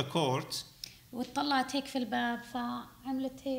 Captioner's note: speaking arabic